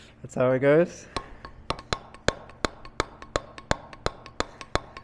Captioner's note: metal hammering